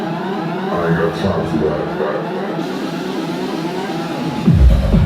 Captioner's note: alarm-like electronic sounds; rhythmic dance music